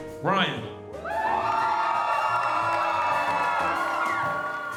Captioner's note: attendees cheering